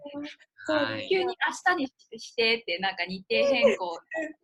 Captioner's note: laugh